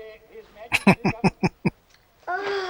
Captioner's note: chuckling